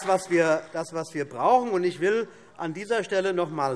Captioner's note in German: Vereinzelter Beifall von CDU und BÜNDNIS 90/DIE GRÜNEN